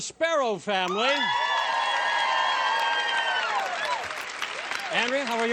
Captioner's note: cheering